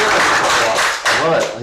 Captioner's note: applause